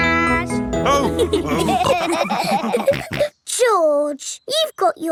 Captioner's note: all laughing